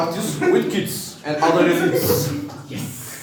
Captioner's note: laughing